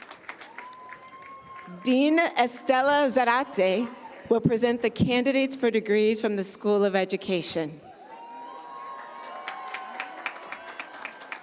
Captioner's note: cheers and applause